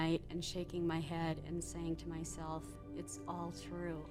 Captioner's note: none